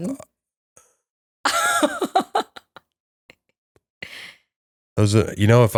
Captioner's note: laughter